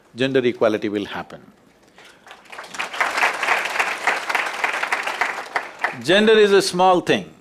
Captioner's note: applause